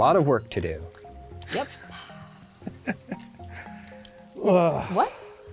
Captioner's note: laughs